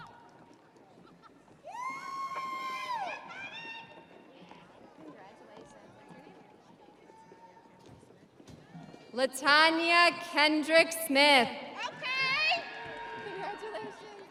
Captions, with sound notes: (audience cheering) Latanya Kendrick Smith.